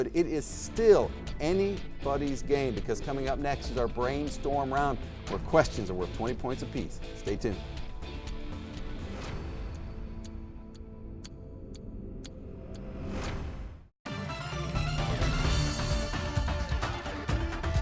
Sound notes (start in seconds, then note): 8.7 clock ticking; 14.1 upbeat electronic music